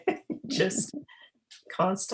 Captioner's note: both laugh